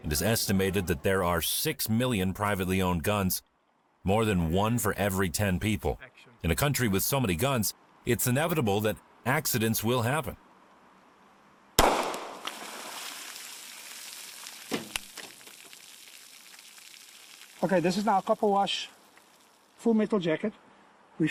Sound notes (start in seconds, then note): 11.8 gunshot crackling; 12.4 water splashes